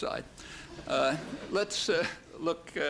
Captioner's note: laughter